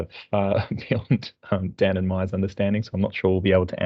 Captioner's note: laughs